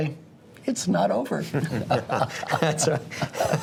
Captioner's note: laugh